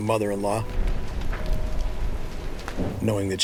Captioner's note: fire flames crackling